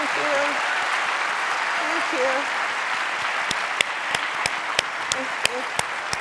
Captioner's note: audience applauding